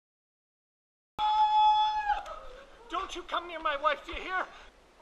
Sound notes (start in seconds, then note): 1.2 screaming